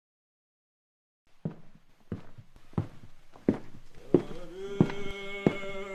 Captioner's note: footsteps